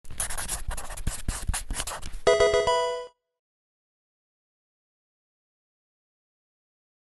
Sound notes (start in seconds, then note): 0.0 marker scratching; 2.2 electronic video game chime